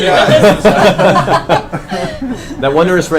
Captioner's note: all laugh